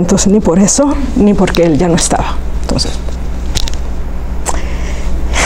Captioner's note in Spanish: suspira